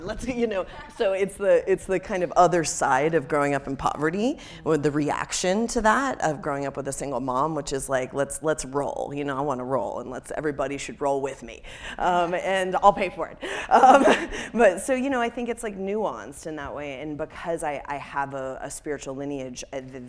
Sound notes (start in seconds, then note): 14.0 laughs